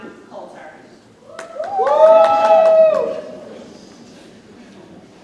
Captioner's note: audience cheers